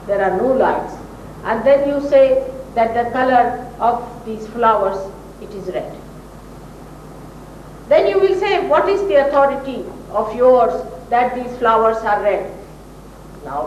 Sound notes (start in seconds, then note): none